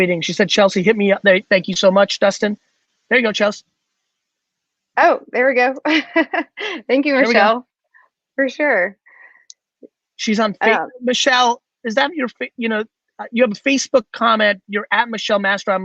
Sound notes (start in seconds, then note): 5.9 chuckles